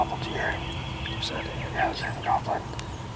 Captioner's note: whispering